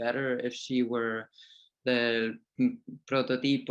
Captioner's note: speaking in foreign language